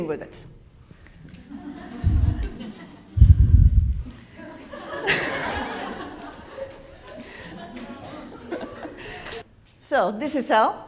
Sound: laughs

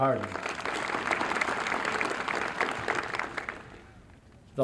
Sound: applause

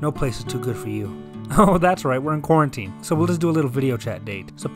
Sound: chuckles

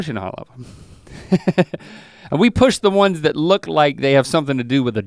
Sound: chuckles

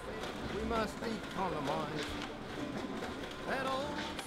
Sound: printer Whirring

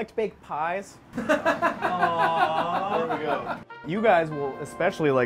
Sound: laughing

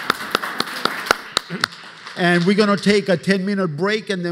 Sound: applause

